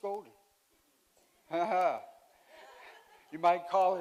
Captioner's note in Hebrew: צחוק